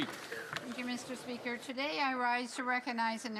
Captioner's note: some Applause